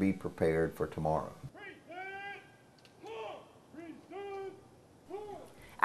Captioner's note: soldier shouting instructions